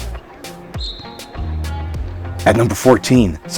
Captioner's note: whistle tweets